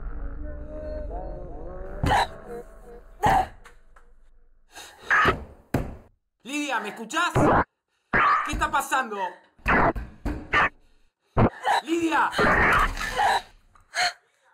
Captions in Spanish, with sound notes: (GRITA) (Golpes) Lidia, ¿me escuchás? ¿Qué está pasando? ¡Lidia! (GRITA)